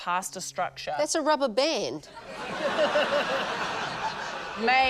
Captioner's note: laughter